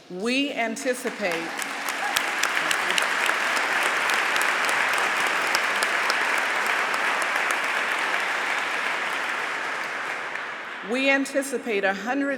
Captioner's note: applause